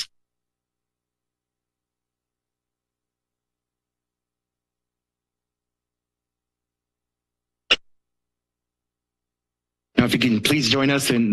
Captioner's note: silence